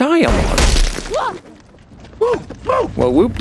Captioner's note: gunshot